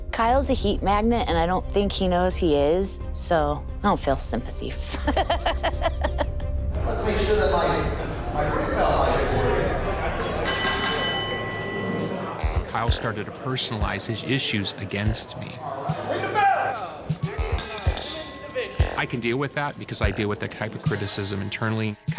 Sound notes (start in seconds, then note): 4.8 laughs; 10.1 bell dinging; 17.5 bell dinging